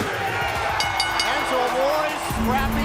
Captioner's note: bell